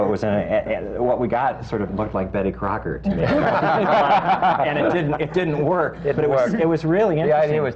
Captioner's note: laughter